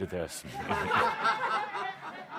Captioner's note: laughter